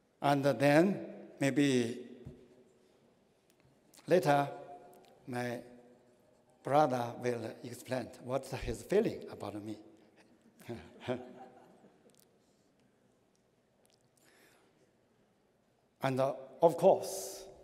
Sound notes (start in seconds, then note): 10.7 laughter